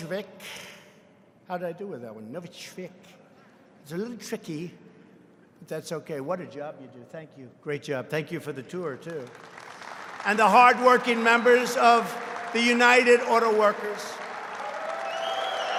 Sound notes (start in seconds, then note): 8.8 applause